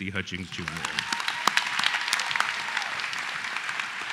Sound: applause

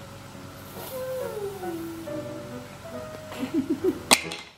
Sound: wooing sound

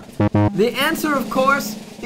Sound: beeping sound

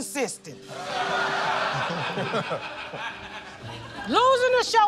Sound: laughter

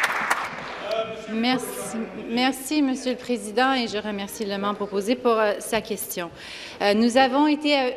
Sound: applause

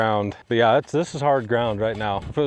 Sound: none

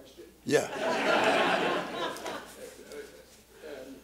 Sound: laughter

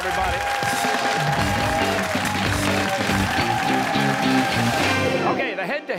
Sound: cheers and applause

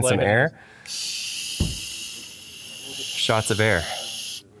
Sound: air can hisses

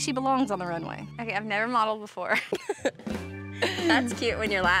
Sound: laughs

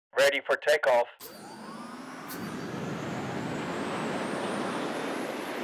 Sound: rocket taking off

